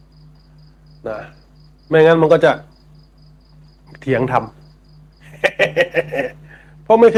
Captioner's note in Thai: เสียงหัวเราะ